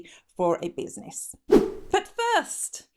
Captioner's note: swooshing